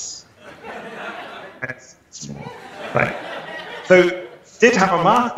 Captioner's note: laughter